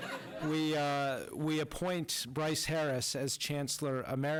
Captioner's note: laughter